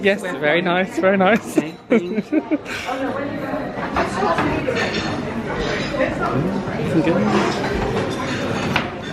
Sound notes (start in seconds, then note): 4.5 kitchen staff clattering